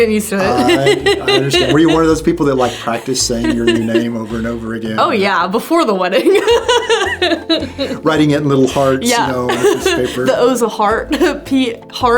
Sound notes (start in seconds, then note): 0.4 chuckles; 6.1 laughs